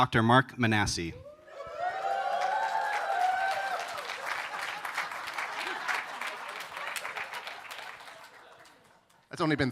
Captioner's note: applause